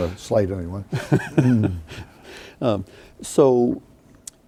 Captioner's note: laughing